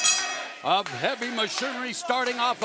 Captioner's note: bell ringing